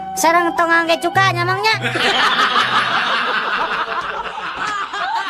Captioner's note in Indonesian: tertawa